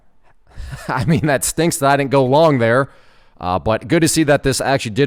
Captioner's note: chuckles